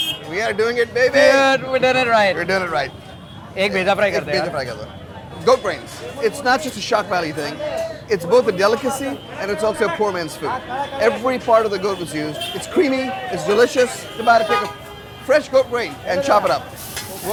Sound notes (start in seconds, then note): 4.4 both speak in Hindi